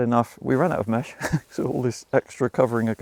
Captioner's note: chuckles